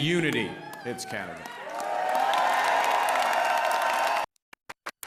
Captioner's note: applause